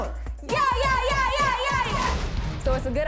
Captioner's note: women yahing